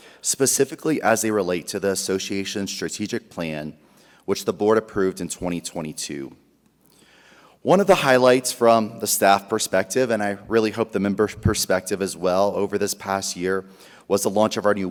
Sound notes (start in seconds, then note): none